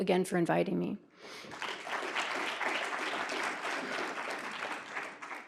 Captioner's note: audience applauds